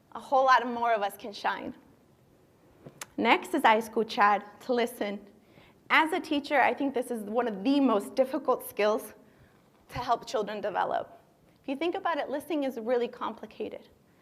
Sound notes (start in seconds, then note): 3.7 speaking spanish